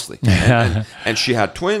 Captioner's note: laughs